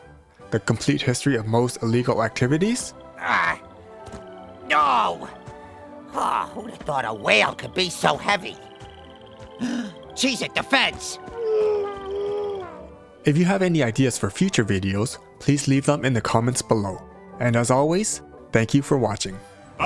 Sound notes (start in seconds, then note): 3.1 grunt; 9.6 gasp; 11.3 whale Groaning; 19.6 spanish Singing